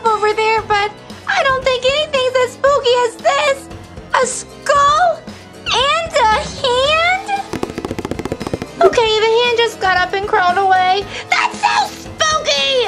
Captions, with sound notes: over there, but I don't think anything's as spooky as this, a skull and a hand. (fast beating) Okay, the hand just got up and crawled away. That's so spooky!